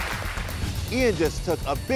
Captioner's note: audience applauds; air whooshes